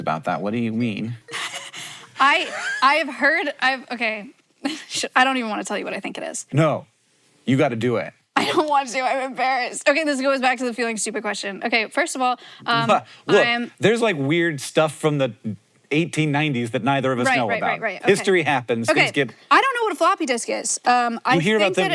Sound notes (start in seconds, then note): 1.3 laughs